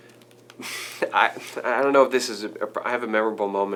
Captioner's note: laughing